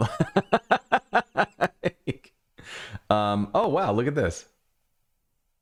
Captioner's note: laughter